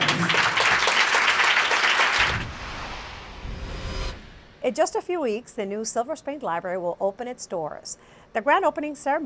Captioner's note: applause